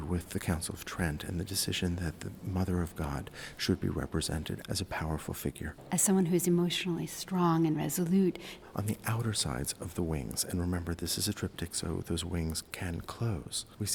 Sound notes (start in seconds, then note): 5.8 voiceover; 8.5 voiceover